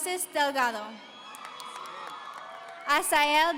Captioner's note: audience cheering